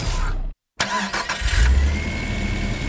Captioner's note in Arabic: تأثيرات صوتية لبدء محرك سيارة، موسيقى